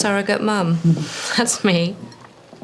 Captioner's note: chuckles